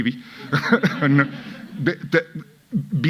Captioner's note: audience laughing